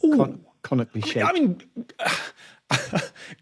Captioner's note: cracks up